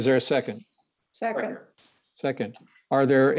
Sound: multiple voices

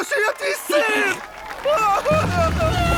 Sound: exclaiming

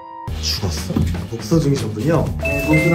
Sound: disappointed

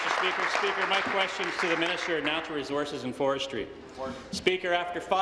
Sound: applause

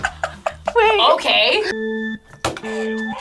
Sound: both laugh; starting beeps; buzzer

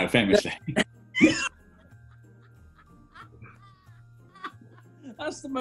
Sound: laughter

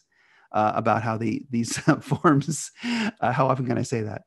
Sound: laughs

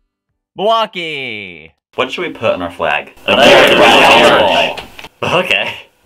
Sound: laugh

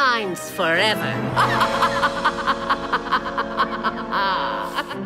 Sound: laughing

